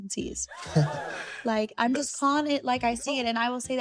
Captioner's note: crowd gasps